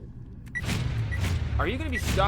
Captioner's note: lasers blasting